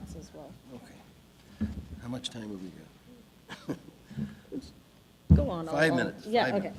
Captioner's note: laughing